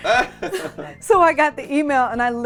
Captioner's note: laughing